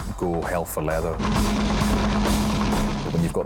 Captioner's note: lifeboat engine whirring